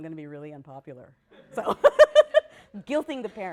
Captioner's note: laughter